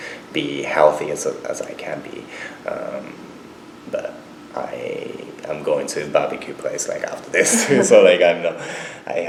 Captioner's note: both laugh